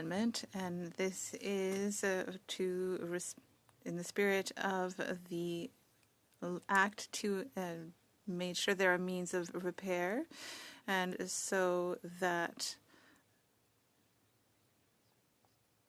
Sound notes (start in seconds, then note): 1.7 speaking French